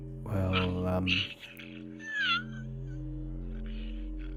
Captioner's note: animal squeaking